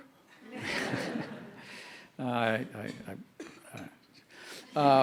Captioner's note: audience laughing